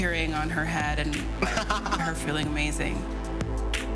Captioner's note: laughs